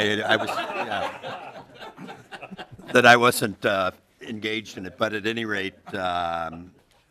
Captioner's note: laughter